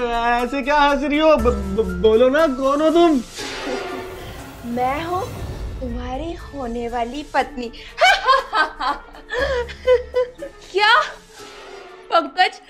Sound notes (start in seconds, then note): 8.0 laughing